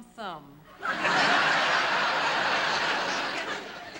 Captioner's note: laughter